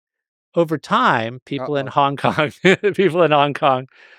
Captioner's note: laughs